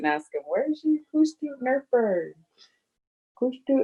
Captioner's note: foreign language